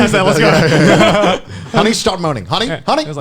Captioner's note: laughing